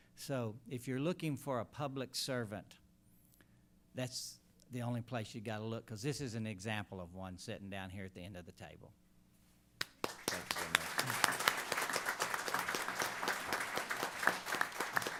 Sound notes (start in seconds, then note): 9.8 applause